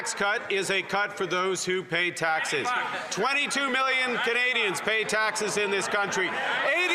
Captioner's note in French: voix de l'interprète